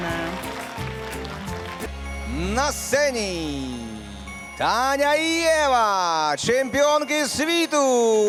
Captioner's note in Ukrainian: оплески